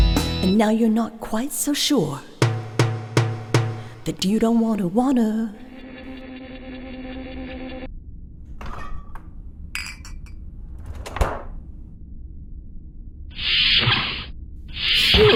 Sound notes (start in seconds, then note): 6.1 end music; 8.2 sound of refrigerator, bottles; 14.9 door sliding